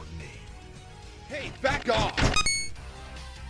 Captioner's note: footsteps